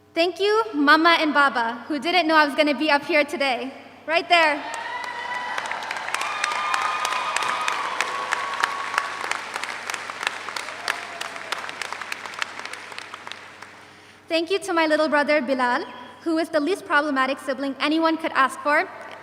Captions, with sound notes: Thank you, mama and baba, who didn't know I was gonna be up here today, right there. (audience applauds) (audience cheers) Thank you to my little brother, Bilan, who is the least problematic sibling anyone could ask for,